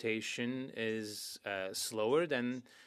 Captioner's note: speaking French